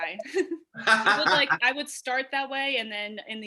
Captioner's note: laughs